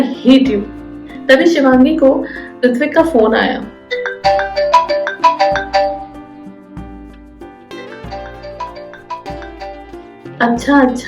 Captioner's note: phone ringing